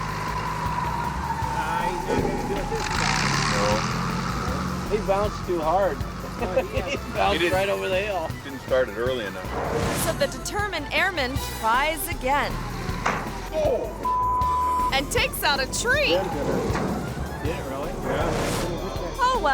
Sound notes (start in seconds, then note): 0.1 propeller humming; 6.1 hunter laughs; 9.6 screen whooshes; 13.2 wing thuds; 14.1 beep